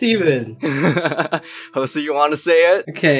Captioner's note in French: rigole